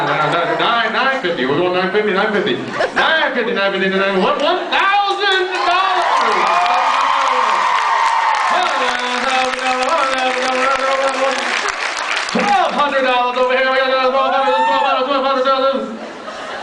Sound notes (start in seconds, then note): 7.2 cheers, applauds; 10.8 applauds